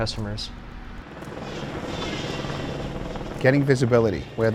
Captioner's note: rotor whirring